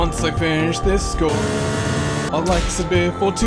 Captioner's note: race-car sound